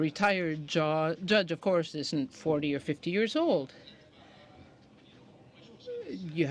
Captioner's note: speaking in french